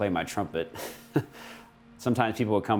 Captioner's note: man chuckling